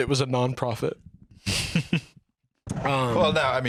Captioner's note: chuckles